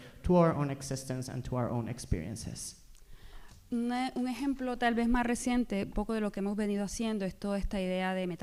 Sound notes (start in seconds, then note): 3.4 speaking spanish